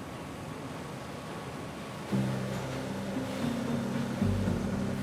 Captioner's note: machinery whirring